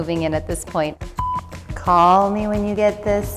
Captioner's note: beep